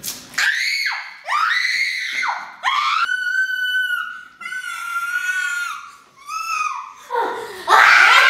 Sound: screams

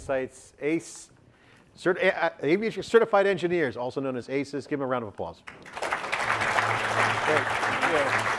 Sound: audience clapping; upbeat music

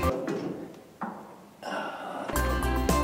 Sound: sighs

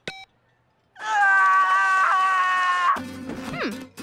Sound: screaming

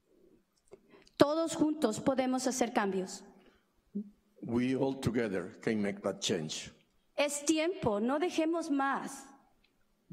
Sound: speaking spanish

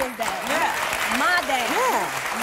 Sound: applause

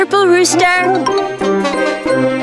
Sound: clucks

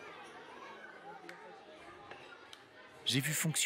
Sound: indistinct chatter

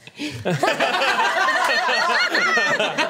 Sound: laughs

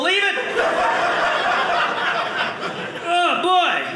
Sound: audience laughing

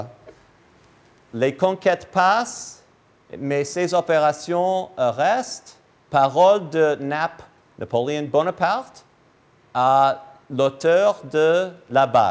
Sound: speaking in French

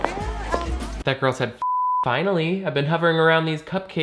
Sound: beep

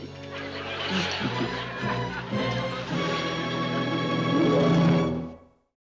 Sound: both laugh

